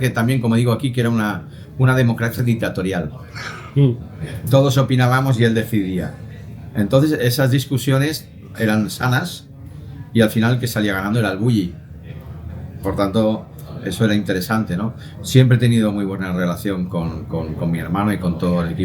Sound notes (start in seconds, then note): 3.3 laughs